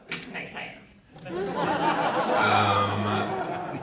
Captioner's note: audience laughs